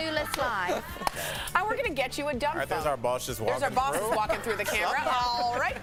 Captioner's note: laughter